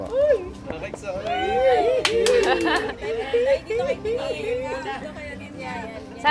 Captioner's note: people cheering in the background